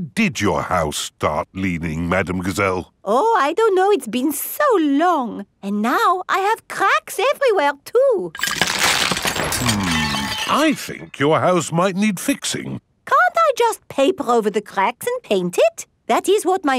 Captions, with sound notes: When did your house start leaning, Madame Gazelle? Oh I don't know, it's been so long... And now, I have cracks everywhere, too! (CRACKING) Hmm. I think your house might need fixing. Can't I just paper over the cracks and paint it?